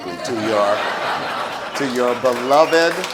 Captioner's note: audience laughs